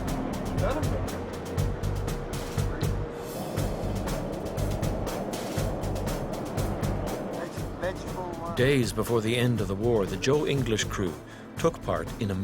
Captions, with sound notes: (bright uptempo drumming music) - [Voiceover] Days before the end of the war the Joe English crew took part in a miracle.